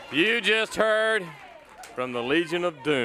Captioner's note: crowd cheering; bell ringing